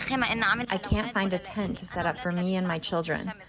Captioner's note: through translator